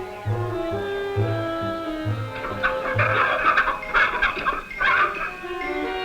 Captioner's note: clucking; panting; snarling